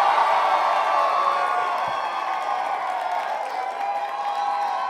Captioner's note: loudest cheering